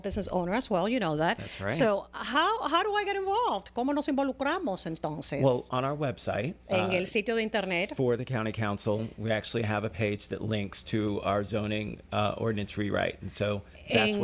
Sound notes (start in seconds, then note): 10.0 Hablando ingl\s